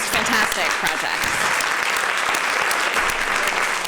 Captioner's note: applause